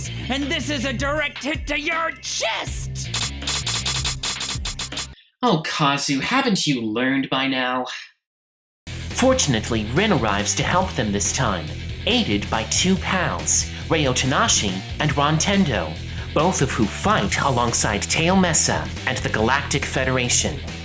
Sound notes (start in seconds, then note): 3.2 clicking